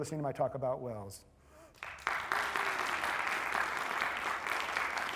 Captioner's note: applause